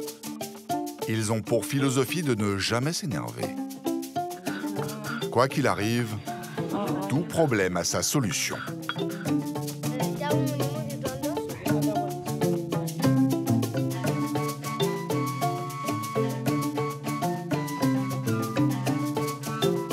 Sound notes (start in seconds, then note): 7.4 Spanish audio spoken